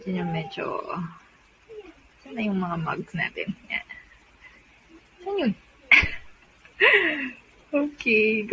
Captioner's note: giggle